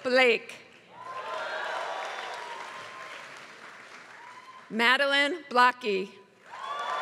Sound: applause; applause

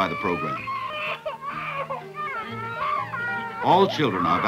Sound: children crying

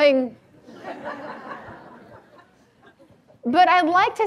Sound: audience laughs

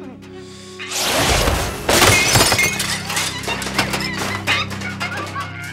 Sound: magical sounds; computer shattering

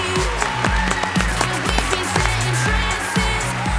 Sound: applause

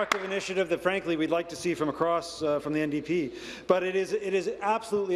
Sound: applause

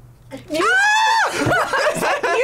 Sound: screams

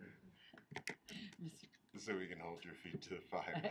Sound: laughing

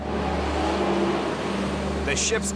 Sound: engine revving

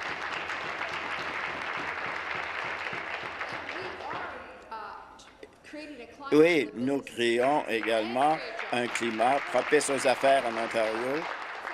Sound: applause

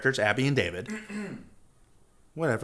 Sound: off screen someone clears their throat

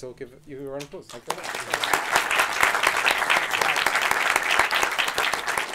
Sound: audience applauding

